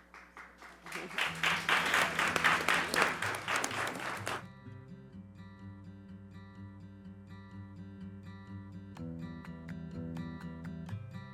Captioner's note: applause